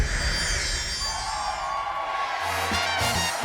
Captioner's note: audience cheering; upbeat jazz music